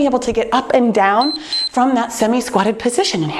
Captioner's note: timer beeps